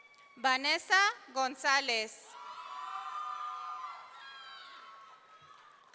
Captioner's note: audience cheering